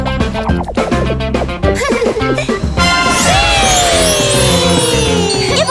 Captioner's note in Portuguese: Risos